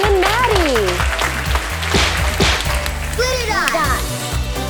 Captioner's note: audience claps